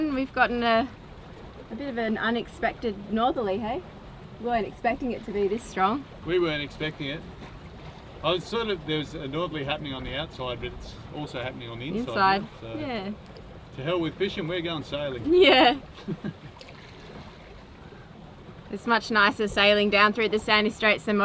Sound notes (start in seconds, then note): 15.2 chuckling